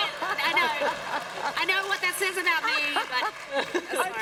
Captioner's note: applause